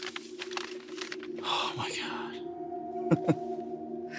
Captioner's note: chuckles